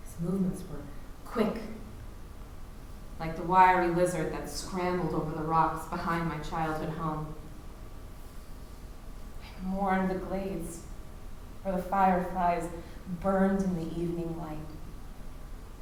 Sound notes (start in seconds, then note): none